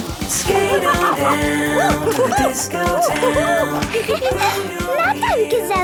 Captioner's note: laughing and exclaiming